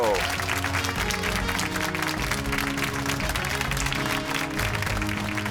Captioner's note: cheers and applause